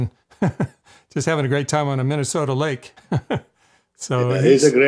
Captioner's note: chuckles